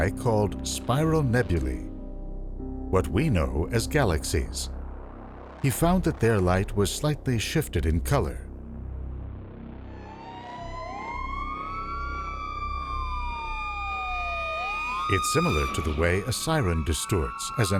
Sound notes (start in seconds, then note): 9.7 sirens alarming